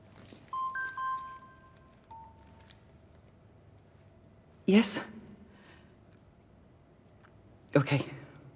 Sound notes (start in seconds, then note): 2.1 beeps